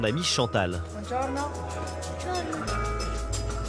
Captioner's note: in Italian